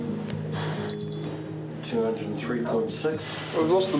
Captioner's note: beeping